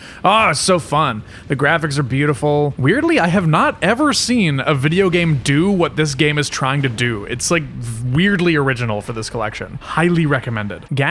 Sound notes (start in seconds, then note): none